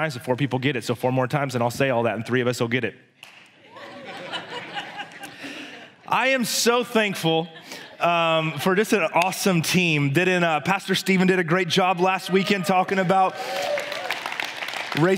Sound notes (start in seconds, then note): 3.6 congregation laughs; 12.3 congregation applauds